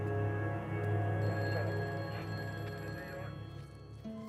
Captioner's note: phones ringing